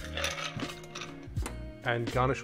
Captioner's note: ice clinking